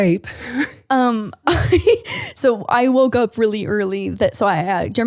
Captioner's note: laughs